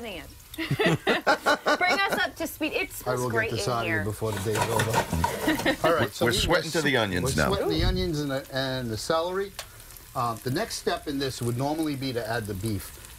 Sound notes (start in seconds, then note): 5.2 laughter